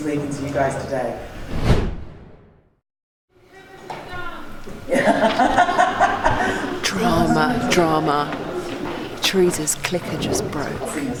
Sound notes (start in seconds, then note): 1.1 air whooshing; 4.9 laughing